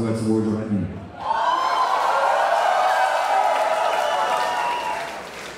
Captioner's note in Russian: аплодисменты и ликование зала